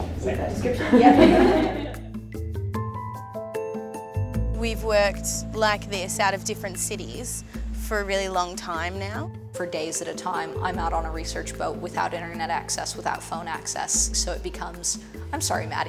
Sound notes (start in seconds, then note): 0.6 laughter